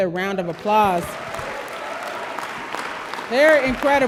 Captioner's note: audience applause